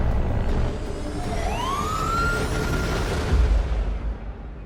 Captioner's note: police sirens